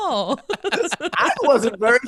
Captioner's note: laughing